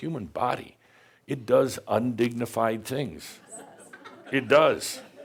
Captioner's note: some chuckles and agrees